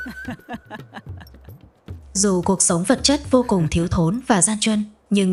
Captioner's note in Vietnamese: tiếng cười